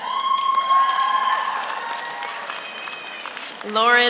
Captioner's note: audience cheers; audience applauds